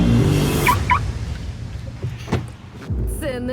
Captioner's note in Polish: muzyka cichnie; alarm auta pika